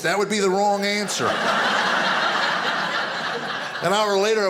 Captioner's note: audience laughing